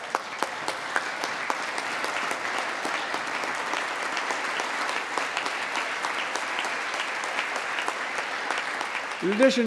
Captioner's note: applause